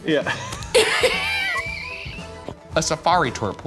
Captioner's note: laughing